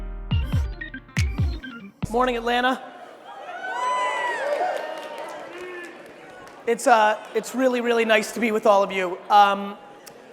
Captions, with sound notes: (upbeat music) Morning, Atlanta. (crowds cheering) It's really, really nice to be with all of you.